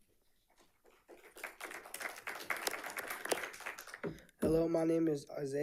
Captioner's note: audience applauding